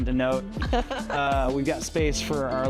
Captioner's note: laughs